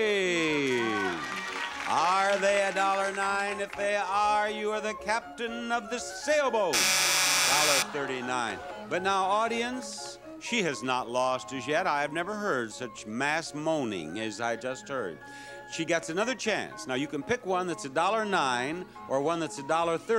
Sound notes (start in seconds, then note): 0.2 audience clapping; 6.7 buzzer beeping